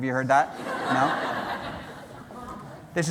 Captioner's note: laughter